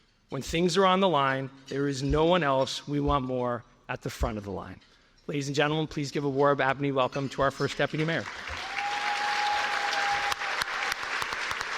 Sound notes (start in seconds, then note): 8.2 cheers and applause